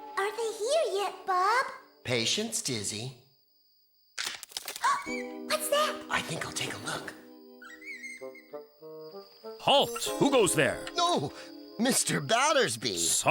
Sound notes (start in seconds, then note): 3.7 rustling; 4.7 gasps